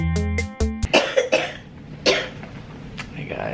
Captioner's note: coughing